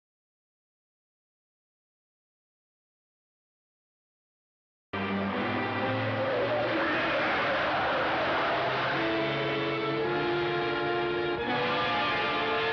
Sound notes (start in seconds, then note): 5.8 tires squealing; 9.5 dramatic music